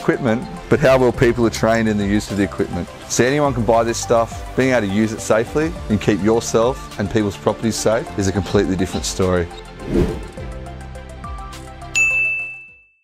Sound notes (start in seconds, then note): 9.8 swoosh; 11.9 ding